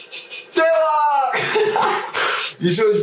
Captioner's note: laughs